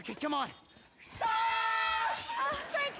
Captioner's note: both scream excitedly